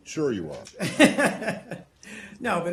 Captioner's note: laughter